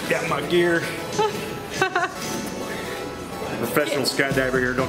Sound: laughing

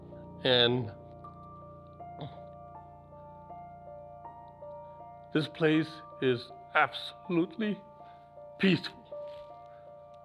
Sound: voice breaking

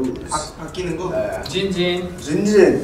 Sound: speaking Korean

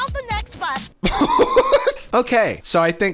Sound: laughing

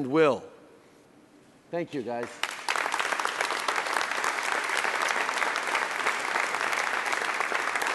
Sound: applause

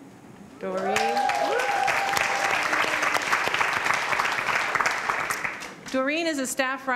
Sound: applause

